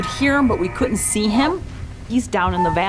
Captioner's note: cow calling